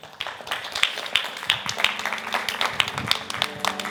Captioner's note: crowd clapping